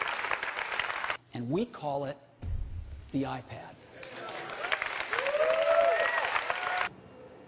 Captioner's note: applause; applause